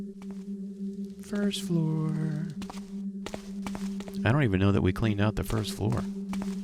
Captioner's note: sing songy